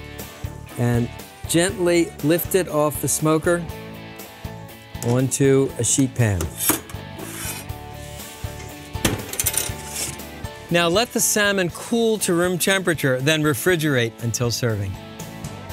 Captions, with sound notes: AND GENTLY LIFT IT OFF THE SMOKER ONTO A SHEET PAN. [THUD] NOW, LET THE SALMON COOL TO ROOM TEMPERATURE THEN REFRIGERATE UNTIL SERVING.